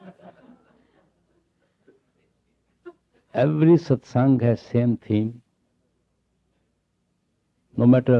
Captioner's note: laughter